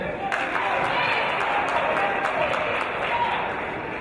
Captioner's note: applause